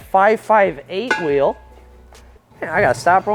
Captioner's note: wheels clang